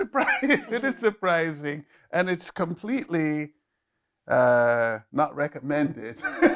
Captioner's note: laughing